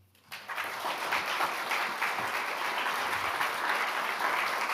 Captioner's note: audience applauds